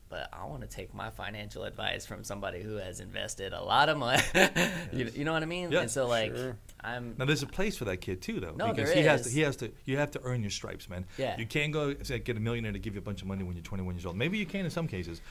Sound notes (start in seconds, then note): 4.2 laughing